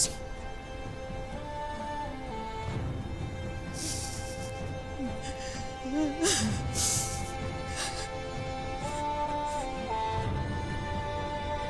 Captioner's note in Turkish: Ağlama sesleri